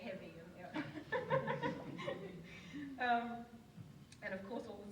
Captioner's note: audience laughs